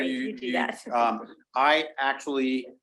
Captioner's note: chuckling